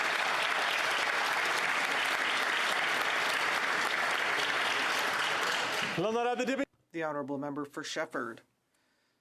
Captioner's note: applause